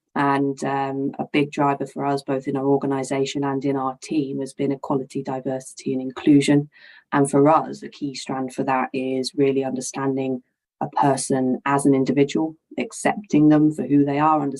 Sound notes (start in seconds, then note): none